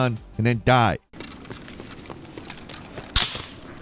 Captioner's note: footsteps pattering; gunshot cracking